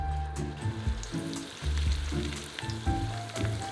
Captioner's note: searing